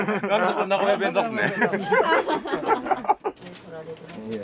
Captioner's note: laughs